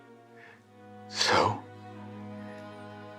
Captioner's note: tearfully